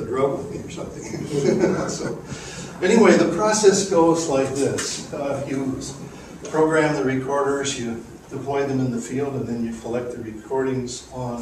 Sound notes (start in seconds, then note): 2.7 laughter